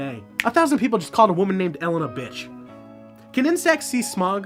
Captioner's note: snap